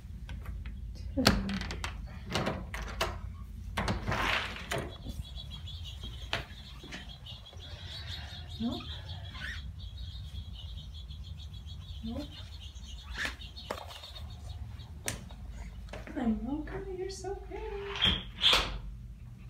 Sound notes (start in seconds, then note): 2.3 birds